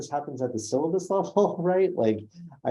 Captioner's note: laughs